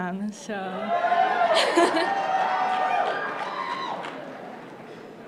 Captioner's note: crowd cheering